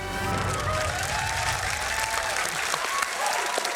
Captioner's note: applause